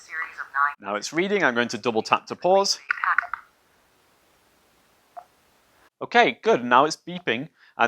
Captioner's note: camera stops reading and beeps